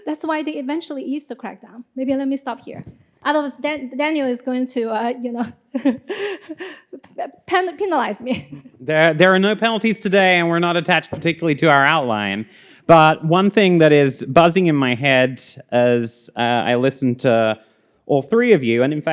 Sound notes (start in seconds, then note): 5.3 laughs